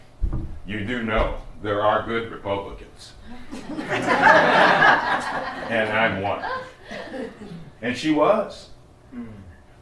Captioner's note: laughter